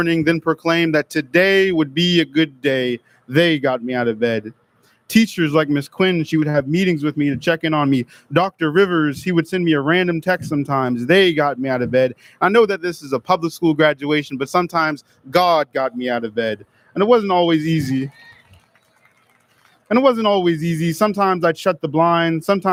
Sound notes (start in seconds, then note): 18.0 audience lauds